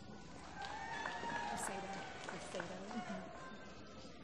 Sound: applause

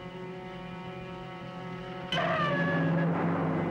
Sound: scream

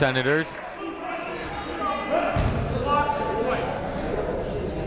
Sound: shouting

